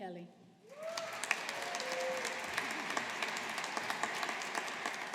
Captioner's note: audience applauding